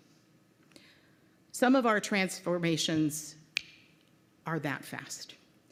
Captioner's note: snaps fingers